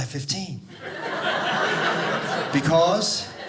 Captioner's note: audience laughing